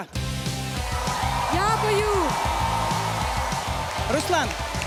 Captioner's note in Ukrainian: оплески